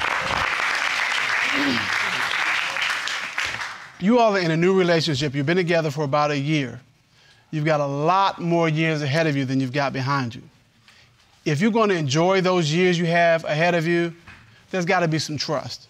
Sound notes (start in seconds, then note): 1.5 clears throat